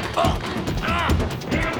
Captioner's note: grunting